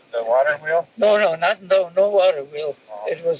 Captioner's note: cassette audio